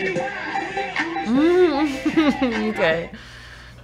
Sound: beat drops; chuckling; fighting laugh

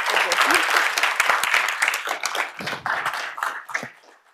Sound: applause

